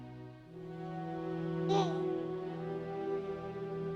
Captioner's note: baby gurgling